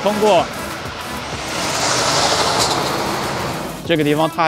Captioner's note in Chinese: 汽车噪音